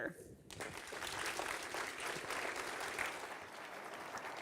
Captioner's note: audience applauding